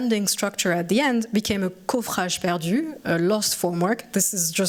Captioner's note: french